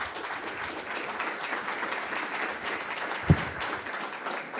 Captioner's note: audience applauding